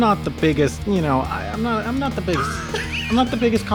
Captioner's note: wheeze